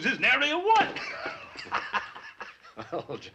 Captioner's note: laughs